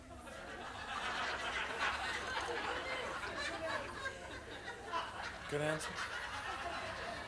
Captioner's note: audience laughing